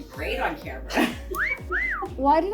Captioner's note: cat call whistling